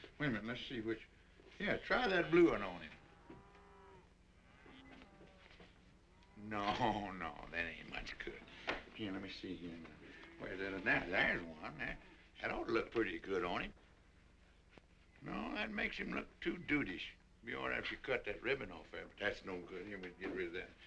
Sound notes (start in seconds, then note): 2.1 cows mooing